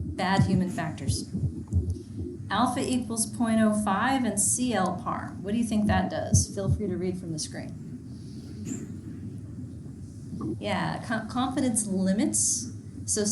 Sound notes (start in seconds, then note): 8.3 student speaking faintly